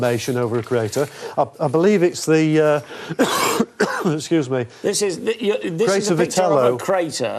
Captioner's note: coughing